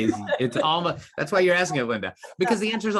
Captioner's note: laughs